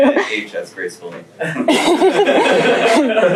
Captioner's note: laughter